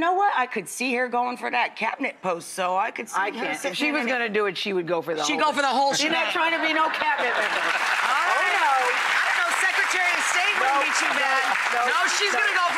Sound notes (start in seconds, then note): 8.4 audience applauding and laughing